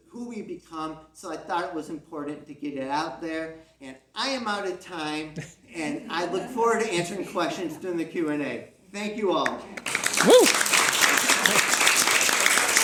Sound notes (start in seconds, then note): 5.7 chuckles from the audience; 9.4 CROWD claps